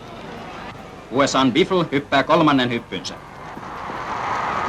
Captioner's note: announcer in German